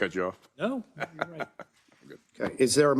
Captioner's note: laugh